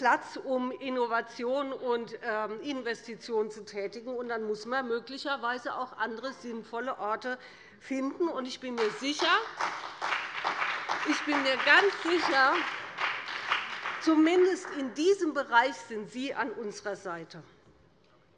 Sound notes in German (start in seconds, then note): 8.7 Beifall bei dem BÜNDNIS 90/DIE GRÜNEN und der CDU